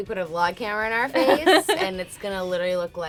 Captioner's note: laughing